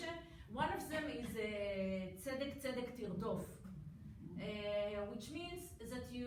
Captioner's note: foreign language